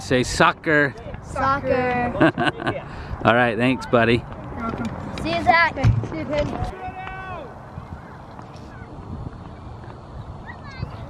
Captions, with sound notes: Okay say soccer. - Soccer. (laughing) - Alright thanks buddy. - See ya, Zack. (chatter)